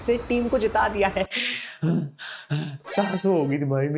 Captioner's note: breathing heavily